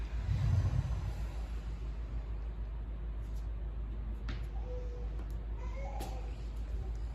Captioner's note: inhale; exhale